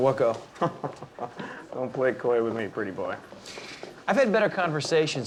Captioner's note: chuckling